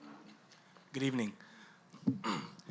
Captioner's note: voiceover